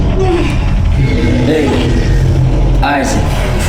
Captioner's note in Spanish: Debra jadea